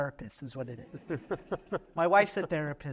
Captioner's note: laughter